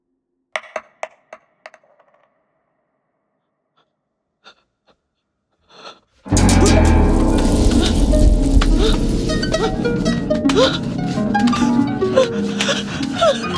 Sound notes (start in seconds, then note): 0.6 dice rolling; 9.6 woman whimpering